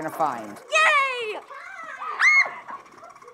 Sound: scream

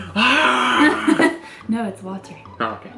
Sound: laughs

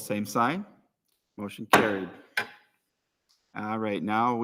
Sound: gavel raps

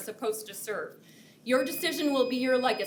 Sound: timer beeps

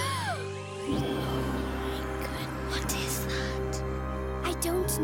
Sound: whispering

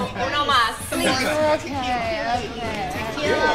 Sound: group chattering

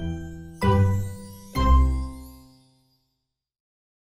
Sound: happy music; chime ringing

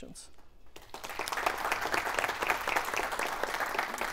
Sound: audience Applauding

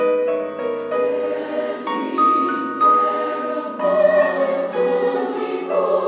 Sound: choir speaks in foreign language

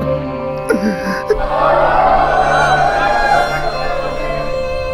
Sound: crying

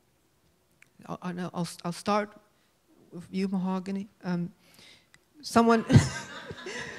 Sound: laughs

